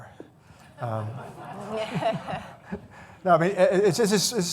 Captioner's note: laughing